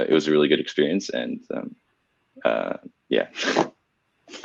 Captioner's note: laughs